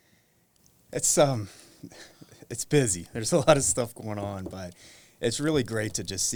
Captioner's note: sighs